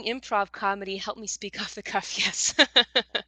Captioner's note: laughs